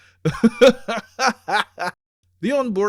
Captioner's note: laughter